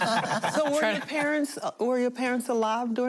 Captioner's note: laughter